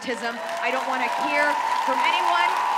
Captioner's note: audience cheers